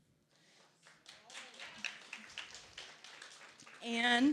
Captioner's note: applause